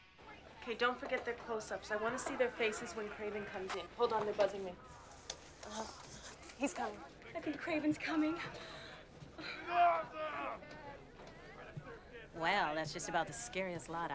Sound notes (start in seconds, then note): 9.6 shouting